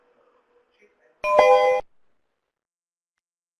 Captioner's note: beeps